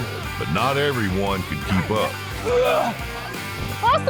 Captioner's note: throwing up; grunting